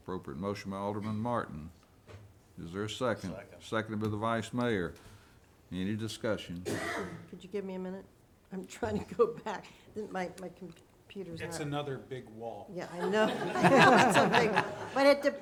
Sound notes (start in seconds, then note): 12.9 all laughing